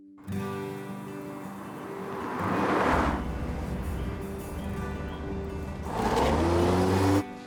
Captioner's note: gentle music; engine rumbling